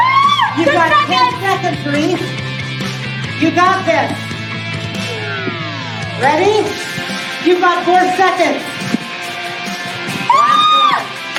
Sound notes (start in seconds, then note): 9.6 yelling